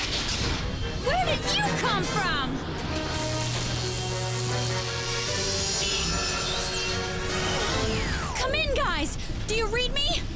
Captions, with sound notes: WHERE DID YOU COME FROM? (CABLES HUM) COME IN, GUYS, DO YOU READ ME?